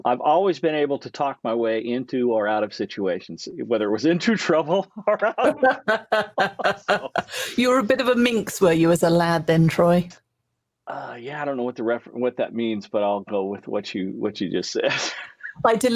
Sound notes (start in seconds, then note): 4.7 both laugh; 15.1 laughs